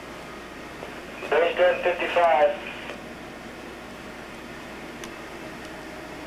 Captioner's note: human voice reporting some numbers plays through a speaker